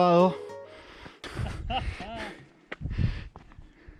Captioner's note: laughs